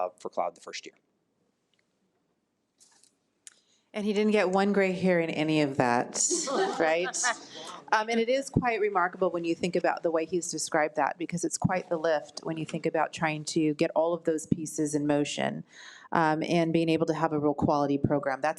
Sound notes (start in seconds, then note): 6.2 attendees laugh